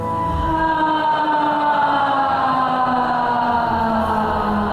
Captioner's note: loud sighing